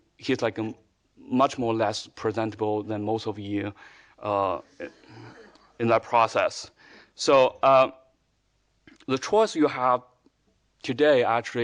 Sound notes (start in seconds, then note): 4.8 audience laughing